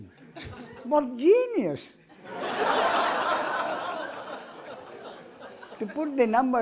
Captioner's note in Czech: smích